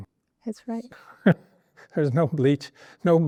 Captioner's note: laughs